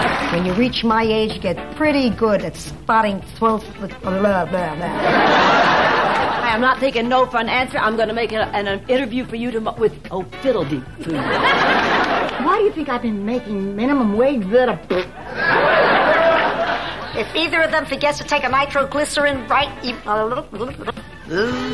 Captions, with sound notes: When you reach my age, you get pretty good at spotting 12th with blah, blah, blah. (audience laughing) I am not taking no fun answer. I'm gonna make an interview for you with oh fiddle-dee-poo. (audience laughing) Why do you think I've been making minimum wage better? (audience laughing) If either of them forgets to take a micro-glycerin, right, you, blah, blah, blah, blah, blah, blah.